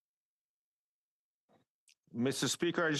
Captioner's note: speaking French